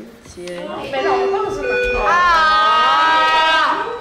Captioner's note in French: cris de désespoir; sonnerie de fin de cours